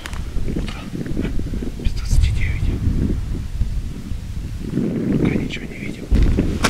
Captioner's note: whispers